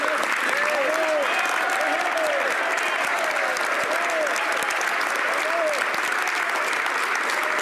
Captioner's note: applause